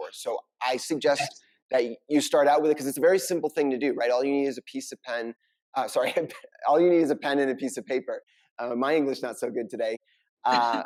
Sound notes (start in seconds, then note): 5.9 chuckling